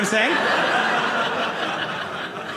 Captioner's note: audience laughing